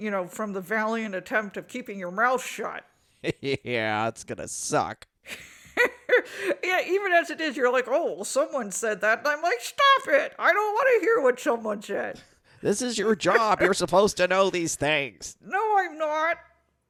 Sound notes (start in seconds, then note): 5.3 laughs